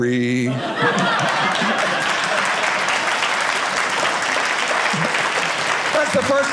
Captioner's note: audience applauding